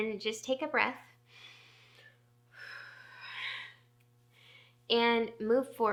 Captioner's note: deep breathing